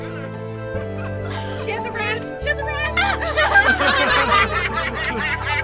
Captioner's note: laughter